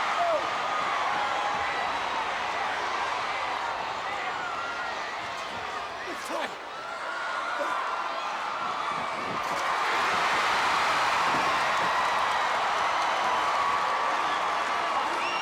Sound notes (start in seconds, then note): 8.3 audience cheering